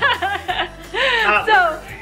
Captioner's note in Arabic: الكل يضحك